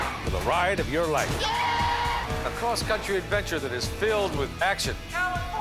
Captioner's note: screaming